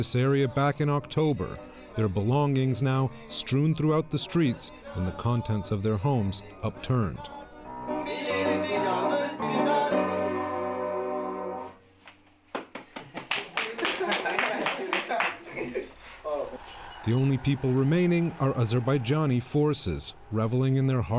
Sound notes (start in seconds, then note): 9.0 applause